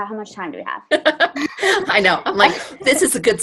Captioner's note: laughs